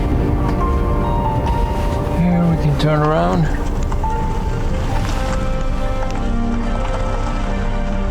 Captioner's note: car Sound